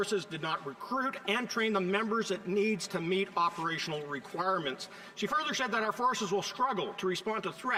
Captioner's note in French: voix de l'interprète